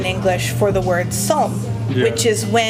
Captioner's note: speaking in Korean